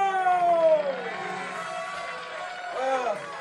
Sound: applause

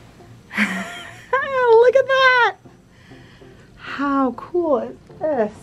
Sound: chuckles

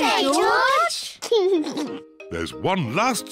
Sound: laughs

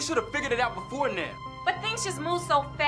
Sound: none

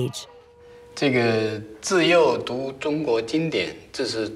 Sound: speaking Chinese

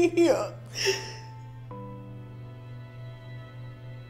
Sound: crying

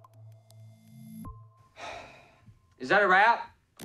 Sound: sigh

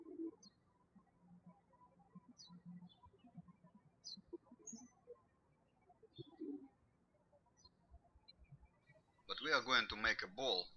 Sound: birds chirping

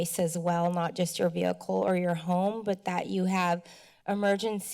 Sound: speech breath

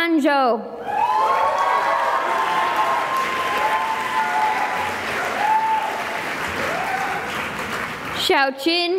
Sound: cheering and applause

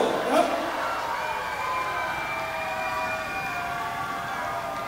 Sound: audience cheering

